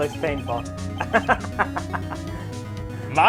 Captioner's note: laughs